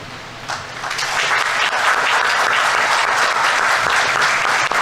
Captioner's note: audience applauding